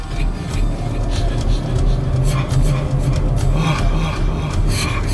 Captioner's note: car engine revving